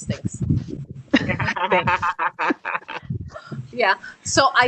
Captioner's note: all laughing